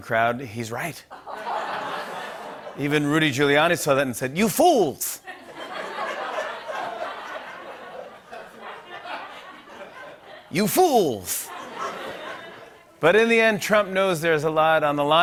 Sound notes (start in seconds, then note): 1.1 laughter; 5.2 laughter